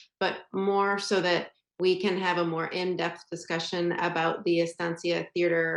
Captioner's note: none